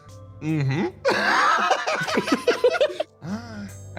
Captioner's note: laugh